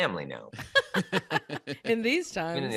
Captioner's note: laughing